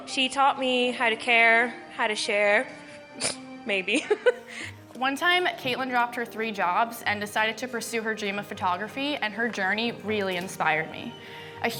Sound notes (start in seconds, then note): 3.2 woman scoffs; 3.9 woman chuckling